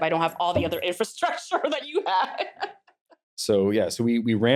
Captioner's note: laughs